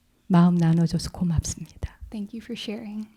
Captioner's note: speaking in Korean